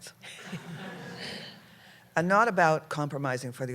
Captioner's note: laughter